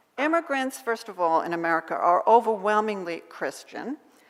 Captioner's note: none